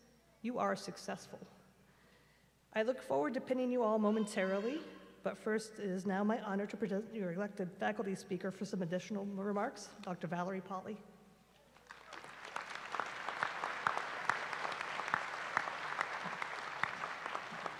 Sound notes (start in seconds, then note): 11.7 applause